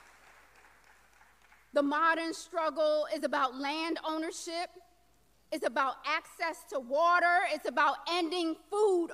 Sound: applause

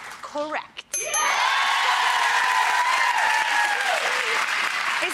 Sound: audience cheering

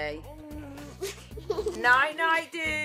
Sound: laughs

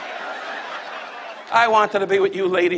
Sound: audience laughs

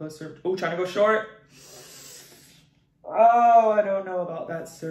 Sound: sighs

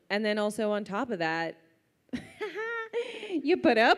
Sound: laughs

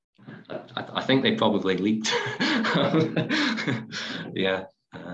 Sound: laughs

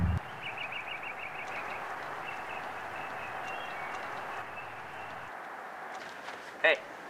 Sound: sounds of animals chirping

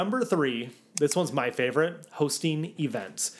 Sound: graphics click

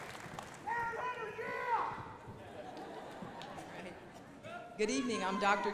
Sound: indistinct chatters

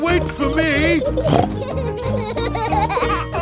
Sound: snorts

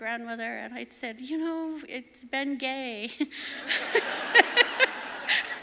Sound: laughing

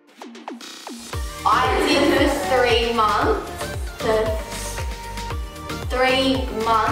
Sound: laughs

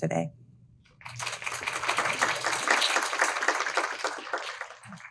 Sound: audience applauding

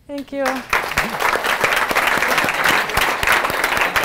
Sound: applause

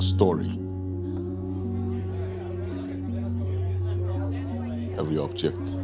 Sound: gentle music; people chattering

